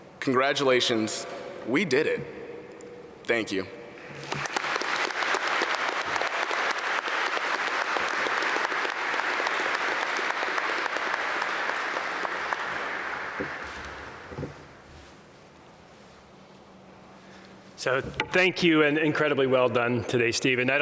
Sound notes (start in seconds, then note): 4.6 applause